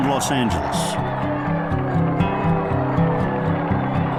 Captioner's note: crowd cheering